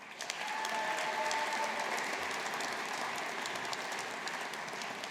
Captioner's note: audience applauding